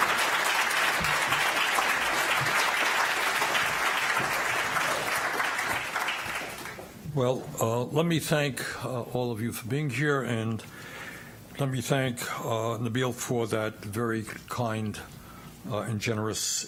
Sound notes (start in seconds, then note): 5.4 applause